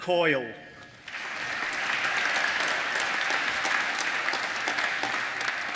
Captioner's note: applause